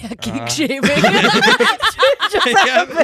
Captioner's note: laughing